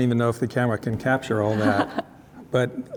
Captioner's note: laughing